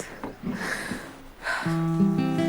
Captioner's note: sighs